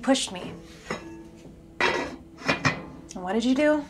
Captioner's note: lid clattering